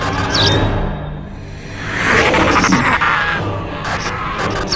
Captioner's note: lights buzzing; vampire growling; lights buzzing